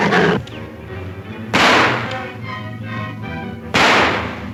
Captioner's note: gun bangs